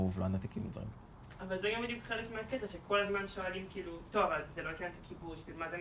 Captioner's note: speaking foreign language